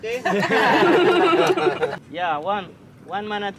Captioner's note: laughing